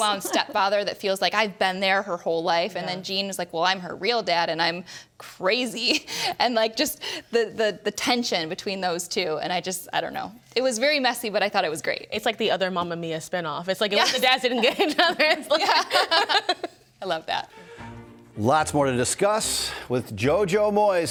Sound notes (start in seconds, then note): 14.6 panelists laughing